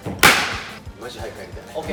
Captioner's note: clapping sound to lift the spell